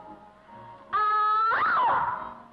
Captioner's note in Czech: Ječící